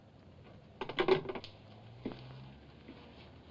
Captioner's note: phone clicks into receiver